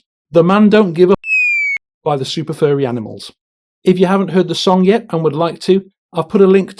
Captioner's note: squeak; whistle